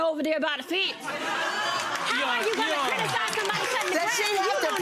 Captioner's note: audience laughing